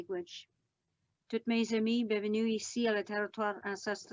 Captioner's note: speaking Algonquin